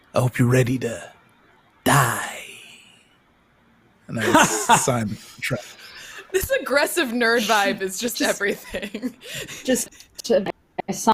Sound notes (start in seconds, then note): 4.1 laughs; 8.2 laughs